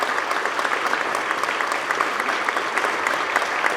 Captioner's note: applause